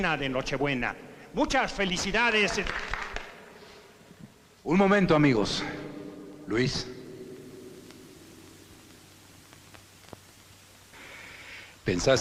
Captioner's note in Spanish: Aplausos